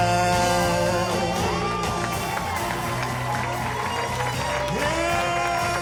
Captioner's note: audience cheers